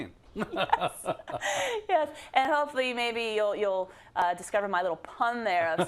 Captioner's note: laugh